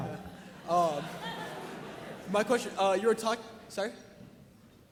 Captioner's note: audience laughing